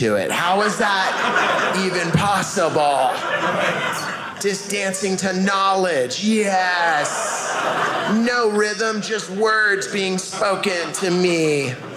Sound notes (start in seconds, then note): 3.2 audience laughing; 6.1 audience laughing